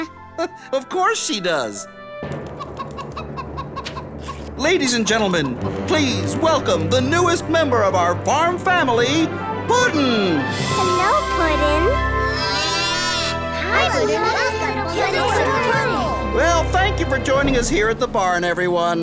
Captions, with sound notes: Of course she does. Ladies and gentlemen, please welcome the newest member of our farm family, Puddin! Hello Puddin! [mooing] [chattering] Well, thank you for joining us here at the barn everyone.